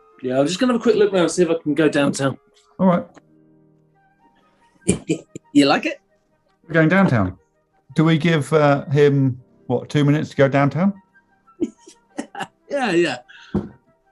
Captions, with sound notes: Yeah I'm just going to have a quick look around; see if I can go downtown. Alright. [CHUCKLING] You like it? We're going downtown. Do we give him, what, two minutes to go downtown? [CHUCKLING] Yeah! Yeah, yeah!